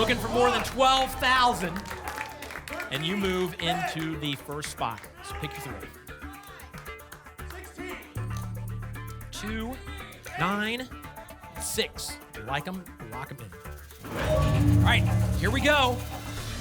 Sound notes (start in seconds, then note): 5.2 audience shouting numbers; 13.9 ping; 14.1 whoosh